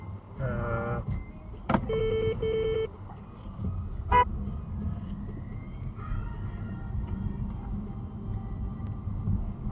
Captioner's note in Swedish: kort tut